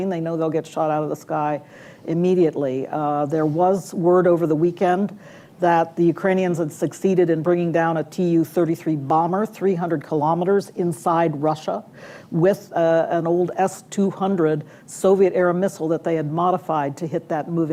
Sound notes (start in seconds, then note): none